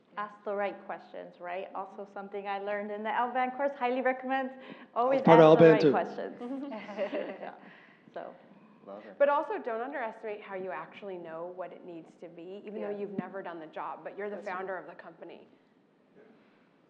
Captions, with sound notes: >> Ask the right questions, right? Also something I learned in the L band course highly recommends always- >> Put our band too. >> Ask the right questions. >> [LAUGH] >> So- >> Well done. >> But also don't underestimate how you actually know what it needs to be even though you've never done the job, but you're the founder of the company.